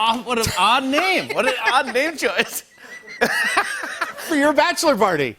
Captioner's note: laughter